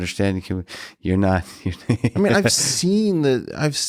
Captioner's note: chuckling